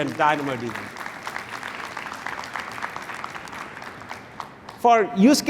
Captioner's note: applause